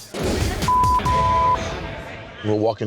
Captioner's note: cursing